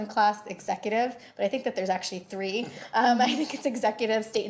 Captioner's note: laughs